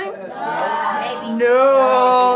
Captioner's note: kids mumbling